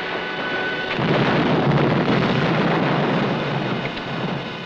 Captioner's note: explosion blasting